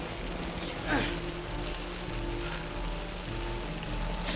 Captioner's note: Quent grunts